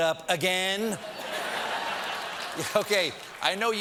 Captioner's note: laughter